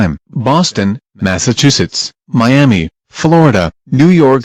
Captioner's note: none